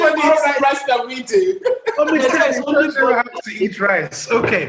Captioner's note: laughter